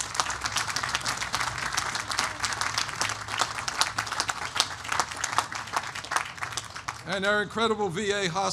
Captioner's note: applause